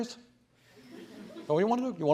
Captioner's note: laughter